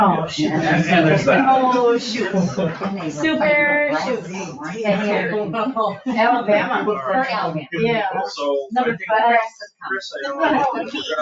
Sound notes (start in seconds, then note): 1.5 people chuckle; 5.1 people chuckle; 9.9 people chattering